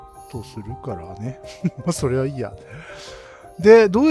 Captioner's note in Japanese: 笑い